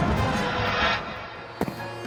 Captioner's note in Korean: 바닥에 착지하는 소리